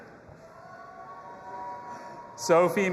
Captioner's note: audience applauding and cheering